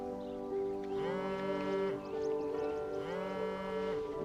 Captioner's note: phone vibrating